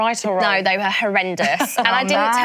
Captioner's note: laughs